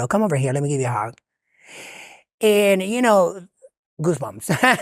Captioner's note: friends laughing